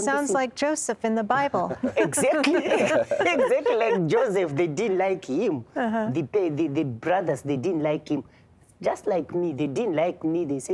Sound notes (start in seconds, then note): 1.6 laughing; 1.6 laughter